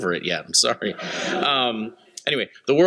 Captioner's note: laughter